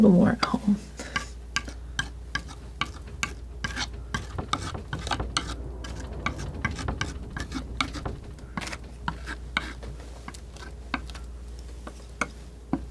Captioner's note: scraping